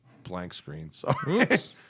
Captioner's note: laughter